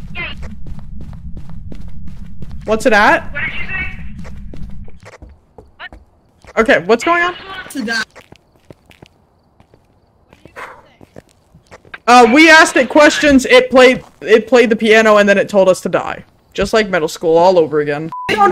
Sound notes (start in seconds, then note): 0.4 over Radio; 5.9 over Radio; 10.9 exhales sharply